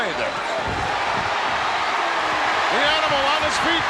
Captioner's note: audience cheers